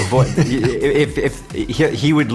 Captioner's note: laughs